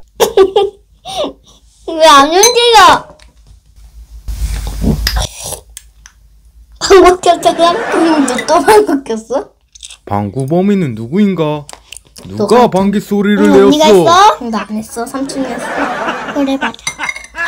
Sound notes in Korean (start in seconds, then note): 0.2 웃음; 4.8 방구